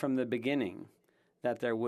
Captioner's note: speaking French